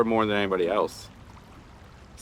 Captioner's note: none